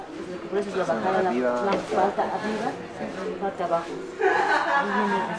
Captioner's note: in Spanish